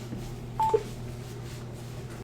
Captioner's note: phone beeps